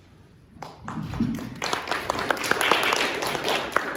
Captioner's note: applause